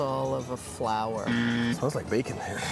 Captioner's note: buzzer blaring; laughing